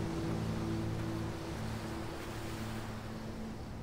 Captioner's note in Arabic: أصوات المدينة